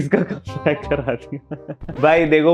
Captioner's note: laughing